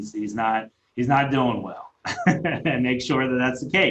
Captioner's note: laughing